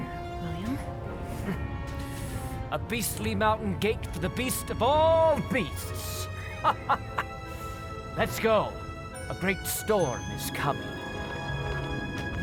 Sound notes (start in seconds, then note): 6.6 laughs